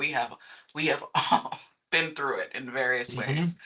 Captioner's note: chuckling